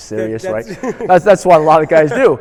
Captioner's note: laughs